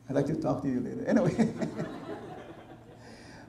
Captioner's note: audience laughter